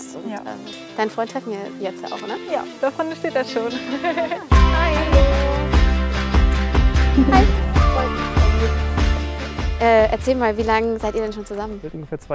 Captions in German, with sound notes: Ja. - Deinen Freund treffen wir jetzt? Ja, da vorne steht er schon. (Kichern) (Dynamische Musik) Hi! Erzähl mal, wie lang seid ihr schon zusammen?